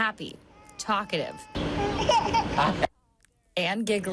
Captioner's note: laughing